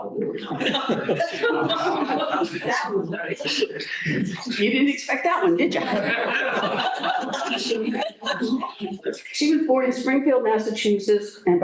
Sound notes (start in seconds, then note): 0.4 laughter; 2.7 chatter; 5.8 laughter